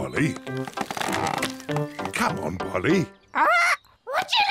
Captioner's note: tree creaks